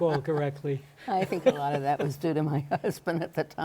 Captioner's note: laughs